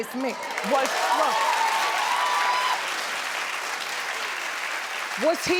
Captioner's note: cheering and applauding